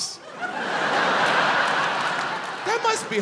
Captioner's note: crowd laughs